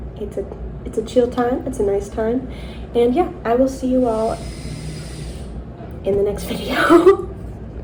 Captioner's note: loud drilling